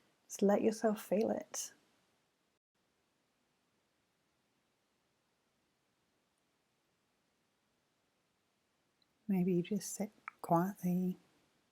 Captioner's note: silence